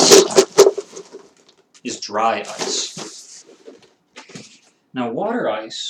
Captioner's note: shaking noise